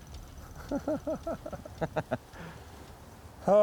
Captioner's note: laughing